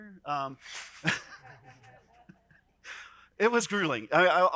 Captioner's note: people chuckling